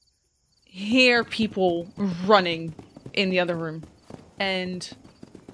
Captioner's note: sounds of people running